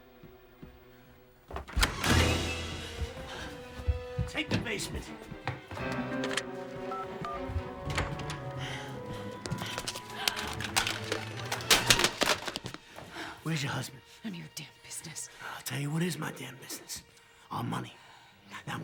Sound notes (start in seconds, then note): 1.6 door creaks; 1.9 dramatic music; 10.0 Rebecca gasps; 10.4 dramatic music